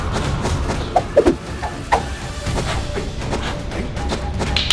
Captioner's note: sticks swooshing